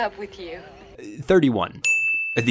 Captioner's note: bell chiming